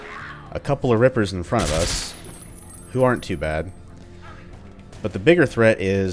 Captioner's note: MAC-10 fire